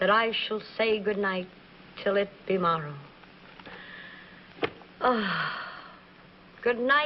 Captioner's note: sighs